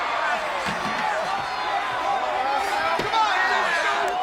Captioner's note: audience cheering